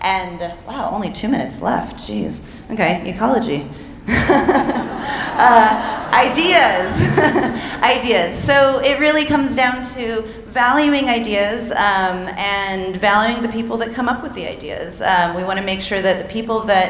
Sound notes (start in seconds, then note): 4.1 speaker laughing; 4.1 audience laughing; 7.0 speaker laughing